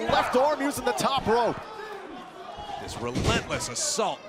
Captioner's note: crowd cheering